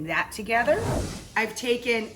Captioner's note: whooshing sound